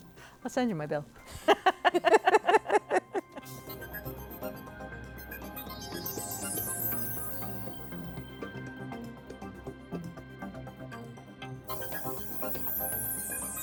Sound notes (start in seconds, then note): 3.6 laughter